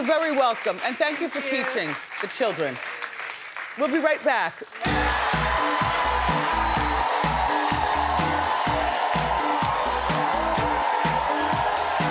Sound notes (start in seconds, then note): 4.8 upbeat music; 6.6 audience cheering